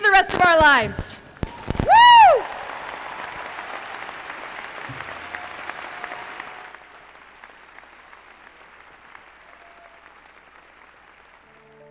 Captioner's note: cheers, applause